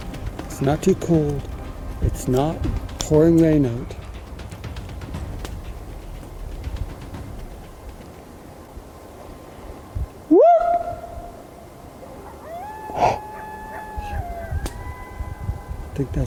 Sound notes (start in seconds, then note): 10.4 yelps; 12.7 coyotes howl